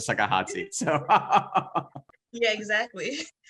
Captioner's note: laughs